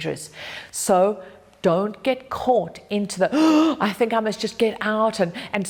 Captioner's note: gasp